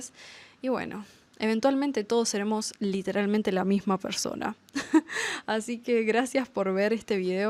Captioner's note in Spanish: risas